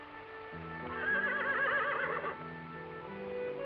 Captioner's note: horse whinnies